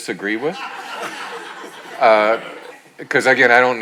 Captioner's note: audience laughing